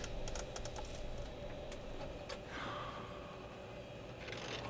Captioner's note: sighs